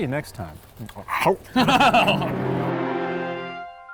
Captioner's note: laughter